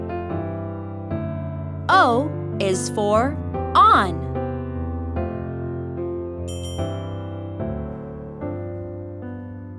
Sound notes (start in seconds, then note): 6.5 bell dings